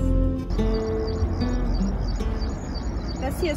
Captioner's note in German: Vogelzwitschern